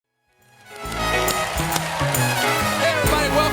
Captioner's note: cheers and applause